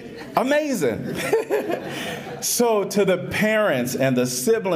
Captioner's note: laughter